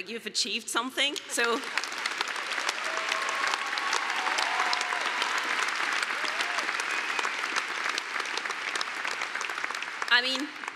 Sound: applause

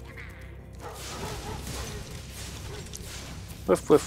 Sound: dog barks

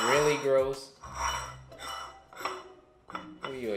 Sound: plate sliding and rattling

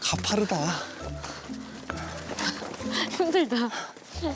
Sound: huffing

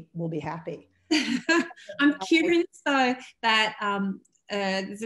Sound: laughs

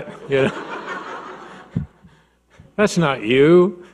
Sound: audience laughing; laughs

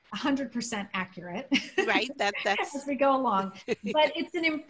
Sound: laughter; laughter

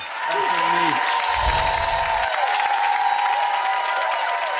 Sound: audience applauding

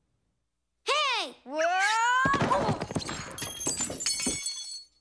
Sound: Arthur Falls & Crashes & Letters Fall Down

